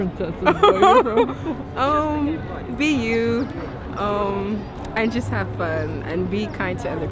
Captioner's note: laughs